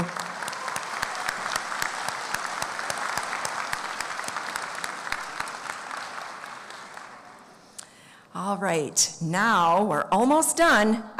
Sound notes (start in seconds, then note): 5.8 applause